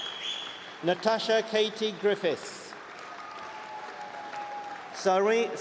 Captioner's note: applause